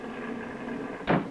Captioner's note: storm sounds